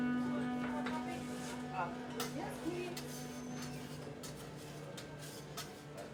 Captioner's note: gentle music continues; people chattering